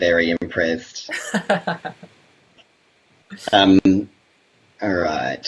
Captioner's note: laughs